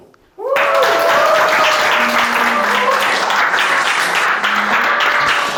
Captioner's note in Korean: 박수 소리